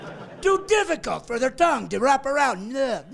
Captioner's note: laughing